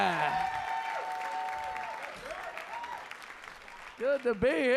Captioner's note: audience cheering